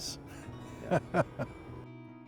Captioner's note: light laughter